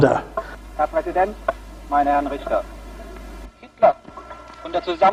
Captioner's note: speaks foreign language